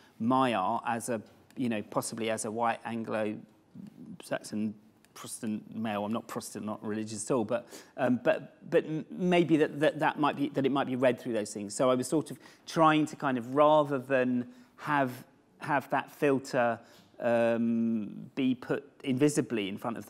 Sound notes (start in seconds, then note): none